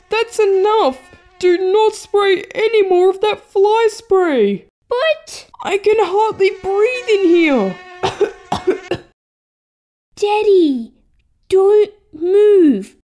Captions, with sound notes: That's enough! Do not spray any more of that fly spray! But... I can hardly breathe in here (Cough! Cough!) Daddy... Don't move...